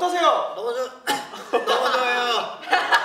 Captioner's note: cough